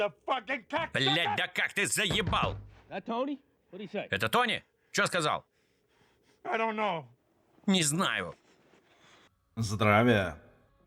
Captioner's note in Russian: стук в окно фургона